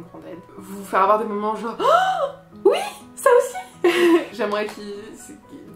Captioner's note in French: rire